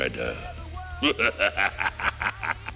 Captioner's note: cackling